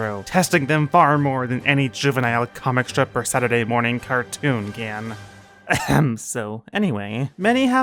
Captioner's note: ahem